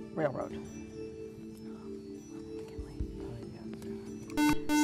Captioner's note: whispering; buzzer